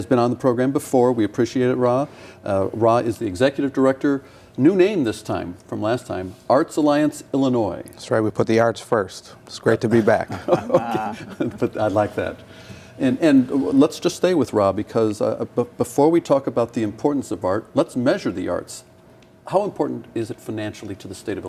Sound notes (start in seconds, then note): 10.3 laughing